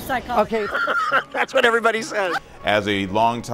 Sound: laughs

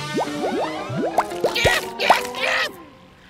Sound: popping

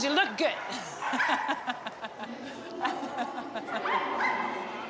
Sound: laughs

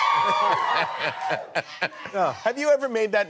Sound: laughing

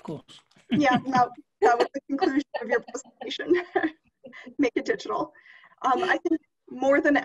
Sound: laughter; laughter

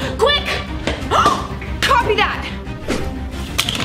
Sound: gasping

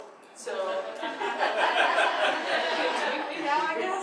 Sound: audience laughs

